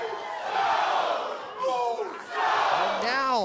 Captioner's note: crowd cheering